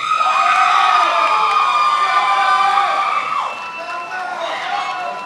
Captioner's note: attendees applauding and cheering